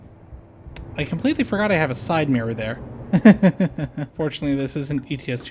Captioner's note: nervous laughter